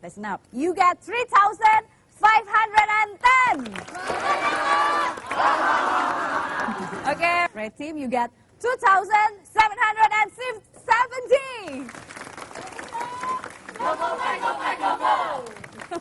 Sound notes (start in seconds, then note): 3.9 chanting; 11.6 applause; 13.6 chanting; 15.6 chuckling